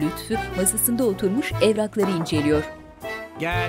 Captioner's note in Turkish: Kapı vurulma sesi